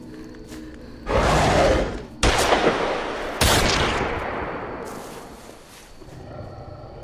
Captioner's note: werewolf growling; guns firing; werewolf breathing